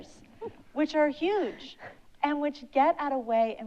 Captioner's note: chuckles